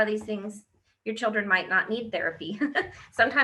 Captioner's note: laughs